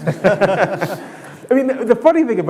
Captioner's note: laughing